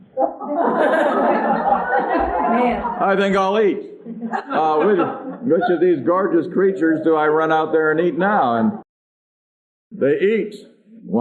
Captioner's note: laughter